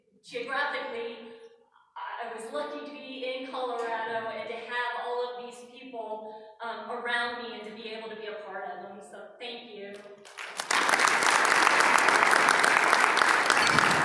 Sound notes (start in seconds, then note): 10.2 applause